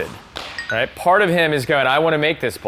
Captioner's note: check-mark tinkles